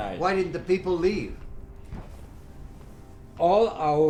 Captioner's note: distant explosions